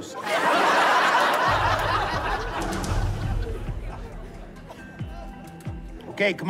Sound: laughter

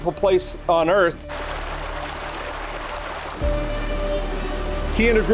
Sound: water splashing

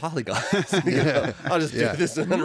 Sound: laughter

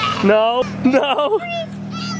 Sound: laughing

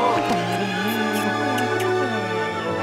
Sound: gasping; smooching

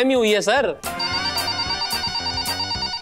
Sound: phone ringing

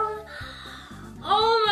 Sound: gasps

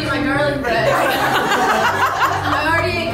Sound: laughing

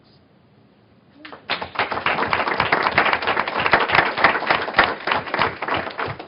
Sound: applause

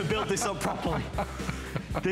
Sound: laughter

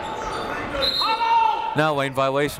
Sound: whistle

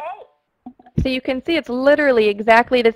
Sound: voiceover

